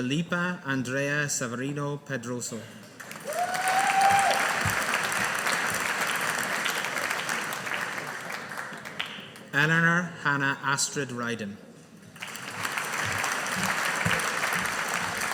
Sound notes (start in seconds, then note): 3.0 audience applauding; 12.2 audience applauding